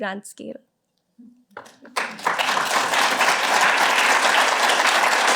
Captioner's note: applause